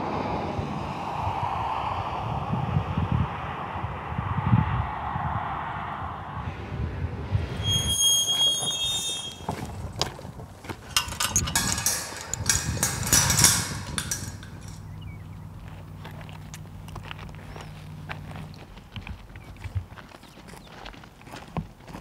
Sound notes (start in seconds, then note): 7.5 gate screeching; 14.4 birds chirping